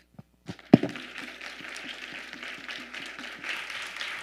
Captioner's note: audience clapping